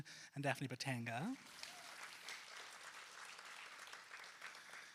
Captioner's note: applause